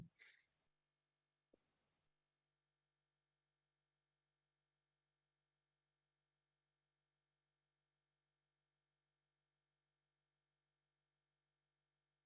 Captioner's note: silence